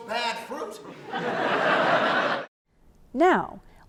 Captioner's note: audience laughs